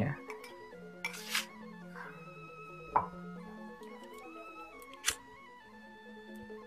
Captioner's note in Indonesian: suara korek api